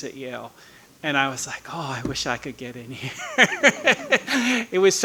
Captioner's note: laughing